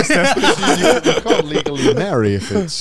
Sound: all laughing

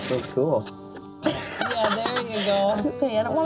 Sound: Chelsea laughing

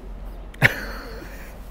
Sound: laughs

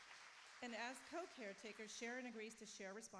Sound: applauding

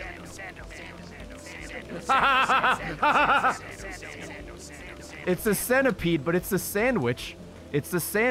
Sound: laughs

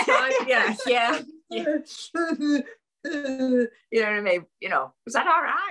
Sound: sobbing

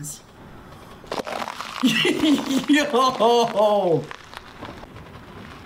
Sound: laughs

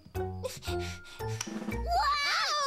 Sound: Gloria Whimpering

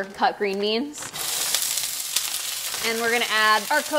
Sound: sizzling

